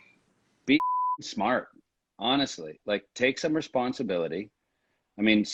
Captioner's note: beep